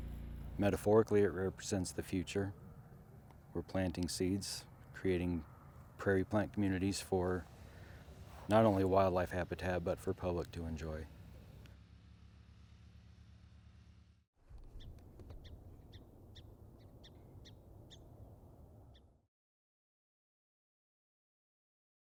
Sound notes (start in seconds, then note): 14.6 birds chirping